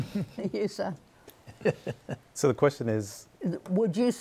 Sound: laughing

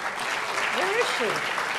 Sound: audience applauds

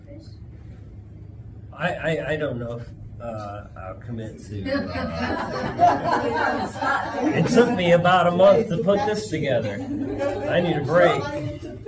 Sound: laughter

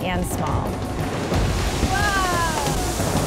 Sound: water gushing

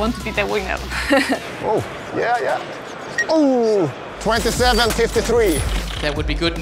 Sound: laughing; beep

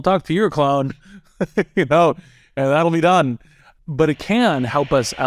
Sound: laugh

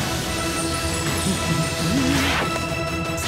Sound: humming

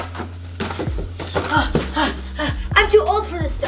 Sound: gasping

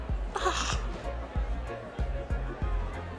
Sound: sobs

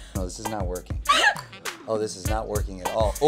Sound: laughing

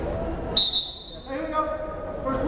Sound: whistle blows

